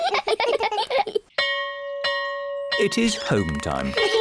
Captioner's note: all giggle; bell rings